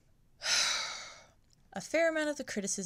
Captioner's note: sigh